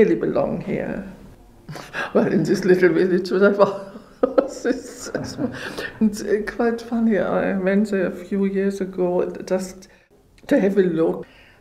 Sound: laughs

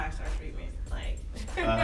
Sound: laughing

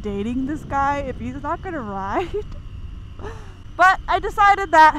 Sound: chuckles

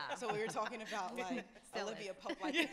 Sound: laughs

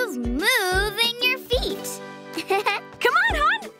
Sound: giggle

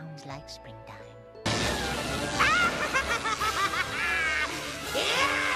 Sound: evil laugh

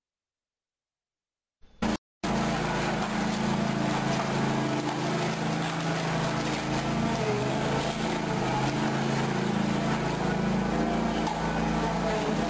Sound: engine running

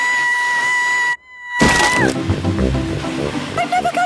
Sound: screaming

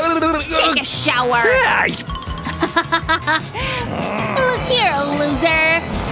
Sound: making angry sounds

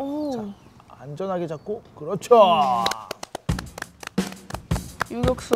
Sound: clap

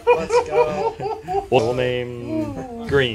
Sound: all laughing

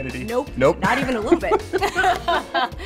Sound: laughter; laughs

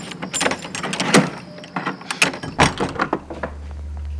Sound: door opening

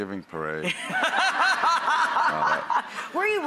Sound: laughing

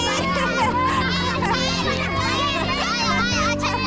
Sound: laughing

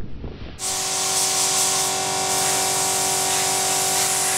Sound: loud whirring

